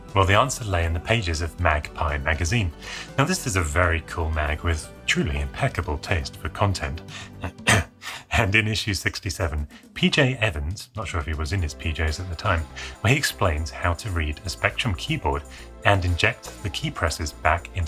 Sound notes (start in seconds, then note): 7.2 coughs; 7.4 chuckling